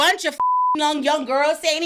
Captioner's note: beep